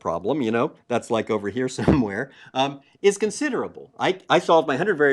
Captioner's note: laugh